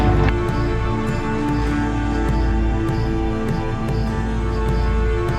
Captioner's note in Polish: Aplauz